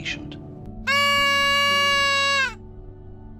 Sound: birthday whistle

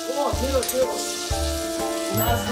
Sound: sizzling

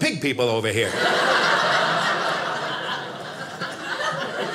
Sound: audience laughing

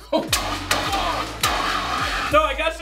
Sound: spurting

